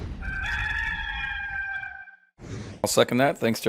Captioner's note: rooster crowing